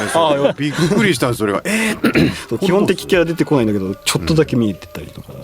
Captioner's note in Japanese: 笑い; 咳払い